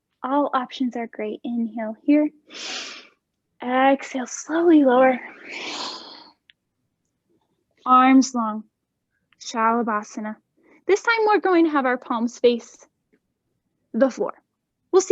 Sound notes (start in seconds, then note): 2.5 inhaling; 5.2 exhaling